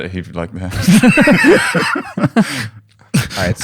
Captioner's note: laughter